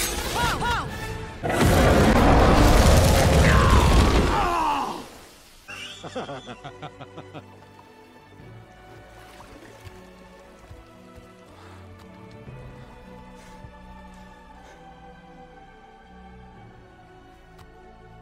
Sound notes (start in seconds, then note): 3.3 scream of pain; 5.7 evil laugh